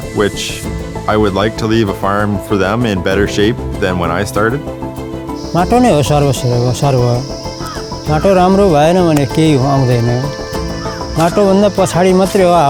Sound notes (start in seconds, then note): 5.5 speaks in foreign language